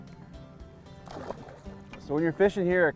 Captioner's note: splash